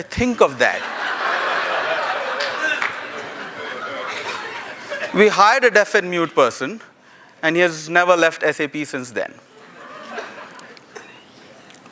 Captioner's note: laughter